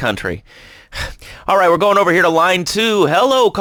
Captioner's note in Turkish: iç çeker